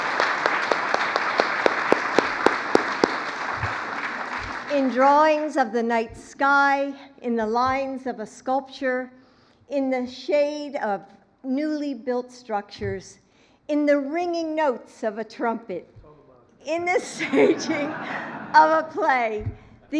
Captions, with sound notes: (Applause.) In drawings of the night sky, in the lines of a sculpture, in the shade of newly built structures, in the ringing notes of a trumpet -- (laughs) -- in the staging of a play,